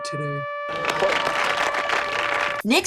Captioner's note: everybody claps